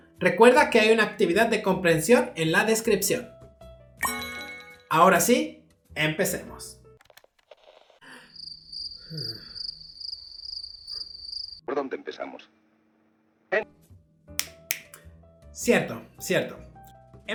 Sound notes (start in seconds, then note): 7.2 sigh and confusion; 14.4 snap